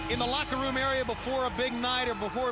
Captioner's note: bell ringing